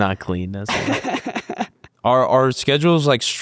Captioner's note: laughs loudly